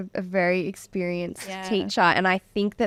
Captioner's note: laughing